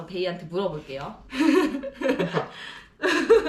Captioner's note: laughing